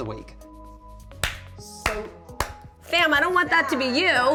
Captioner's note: clapping